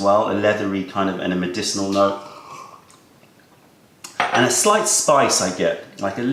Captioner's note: sips tea